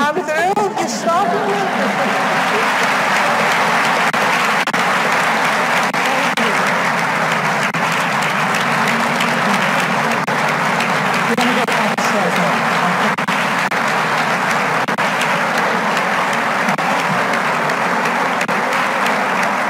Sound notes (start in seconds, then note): 0.0 laughs; 1.5 chuckles; 3.3 audience applauds; 3.3 speaking faintly